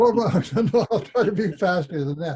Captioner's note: laughs